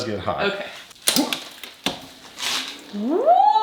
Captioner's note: door clicks